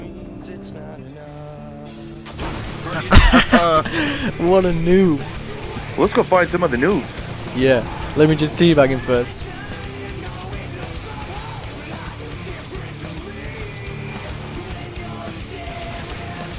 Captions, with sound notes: (laughing) What a noob! Let's go find some other noobs. Yeah! Let me just T-bag him first.